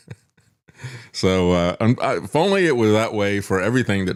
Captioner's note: laughs